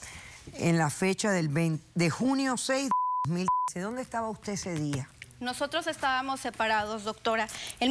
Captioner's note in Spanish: Bip